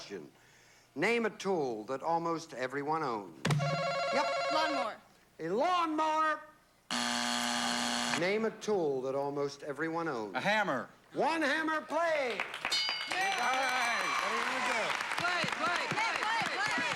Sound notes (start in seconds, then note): 6.9 buzzer